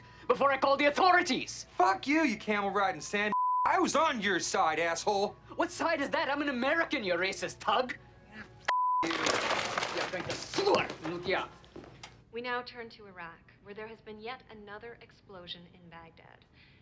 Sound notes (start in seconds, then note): 10.3 speaks foreign language